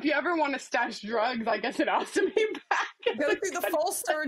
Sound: laughs

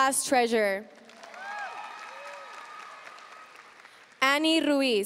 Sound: audience cheering and applauding

